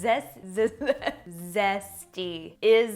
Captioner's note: chuckles